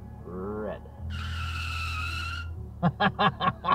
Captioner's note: tires screeching